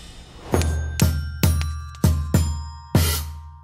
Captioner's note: pings